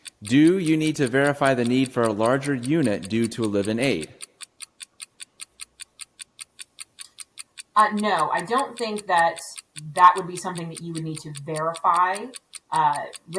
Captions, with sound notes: - Do you need to verify the need for a larger unit due to a live-in aide? (clock ticking) - No, I don't think that that would be something that you would need to verify.